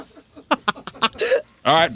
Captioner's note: laughing